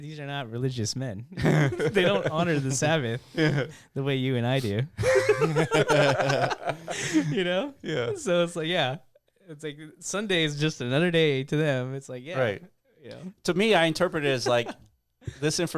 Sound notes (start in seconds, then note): 5.0 laughing